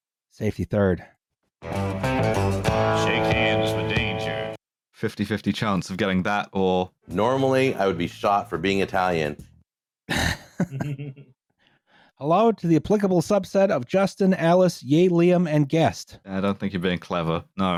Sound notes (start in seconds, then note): 1.6 ♫ twangy guitar riff ♫; 10.1 light laughter